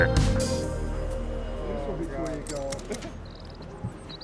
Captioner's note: stagehands working